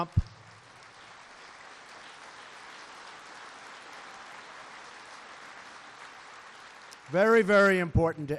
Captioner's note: applause